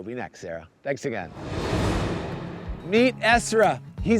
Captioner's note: graphics whooshing